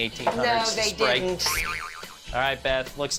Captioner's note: spring bouncing effect plays